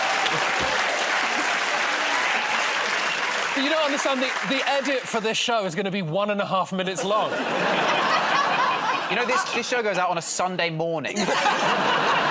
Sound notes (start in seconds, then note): 0.0 cheers and applause